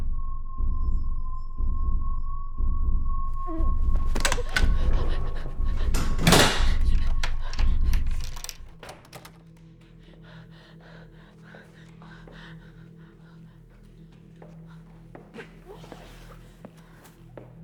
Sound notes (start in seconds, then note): 0.1 tense music; 3.4 Catherine whimpering